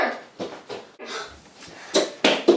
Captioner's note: gasp!